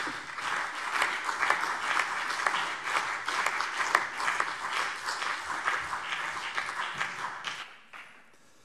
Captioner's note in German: Beifall CDU und BÜNDNIS 90/DIE GRÜNEN